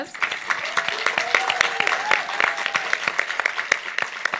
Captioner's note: audience applauds